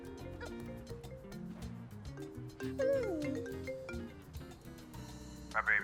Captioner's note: phone Ringing